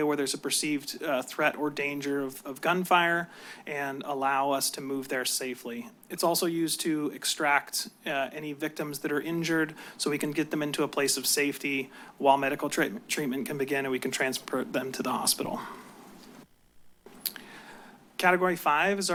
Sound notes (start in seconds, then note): 17.1 clicks tongue